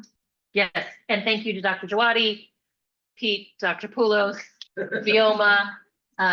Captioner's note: laughter